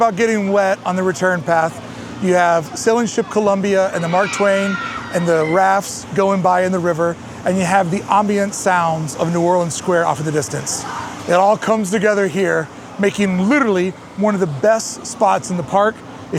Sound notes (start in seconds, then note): 3.6 guests' thrilled screams